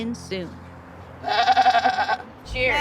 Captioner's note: bleats